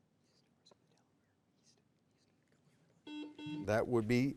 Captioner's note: whispering faintly; buzzer beeps